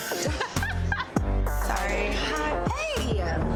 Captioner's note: laughing